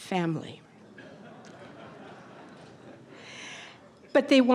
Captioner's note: audience laughter